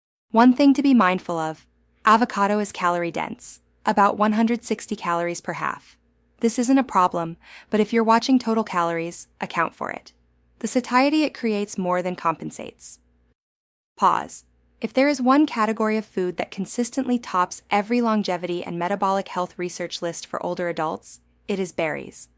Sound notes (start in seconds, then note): 13.2 pause